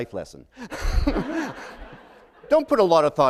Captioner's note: laughter